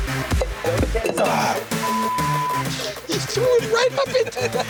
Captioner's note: beep; laughing